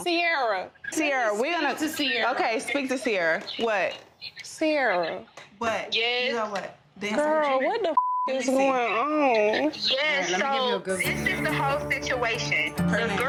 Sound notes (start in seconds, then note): 8.0 beep